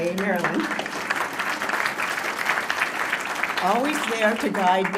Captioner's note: applause